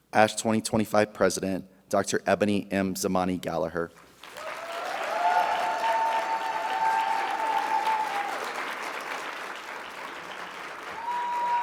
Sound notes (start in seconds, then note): 4.0 audience applauding; 4.2 audience cheering